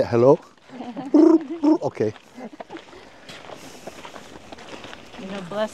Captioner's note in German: Mooji imitiert Geräusch der Heuschrecken; imitiert Geräusch der Heuschrecken